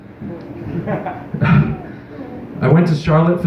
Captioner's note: chuckle; scoffs into Microphone